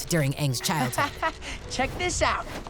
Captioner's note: chuckles